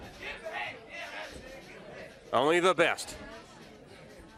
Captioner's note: crowd chatter